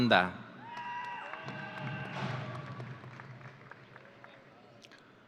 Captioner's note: audience cheering